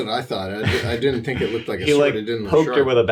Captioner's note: jabbering